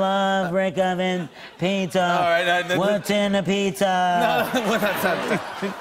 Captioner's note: laughter